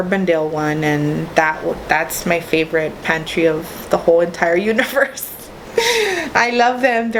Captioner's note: laughs